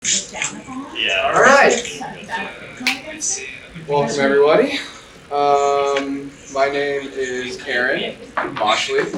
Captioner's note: crowed Noise